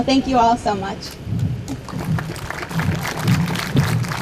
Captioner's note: audience claps